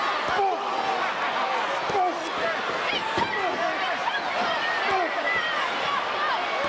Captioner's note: crowd chattering; stage clattering